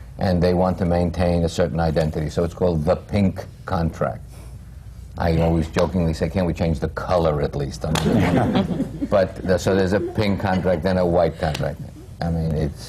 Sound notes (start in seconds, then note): 7.9 laughter